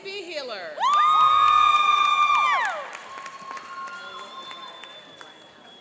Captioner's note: cheering and applauding